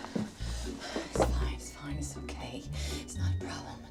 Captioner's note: panting